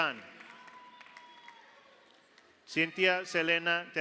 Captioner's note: audience applauds; audience cheers